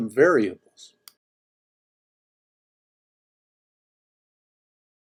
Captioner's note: mouse clicking